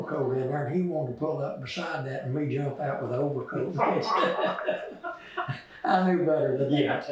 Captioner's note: laughter